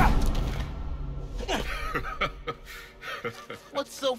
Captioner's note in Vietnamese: Cười